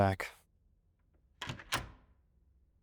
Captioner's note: door opening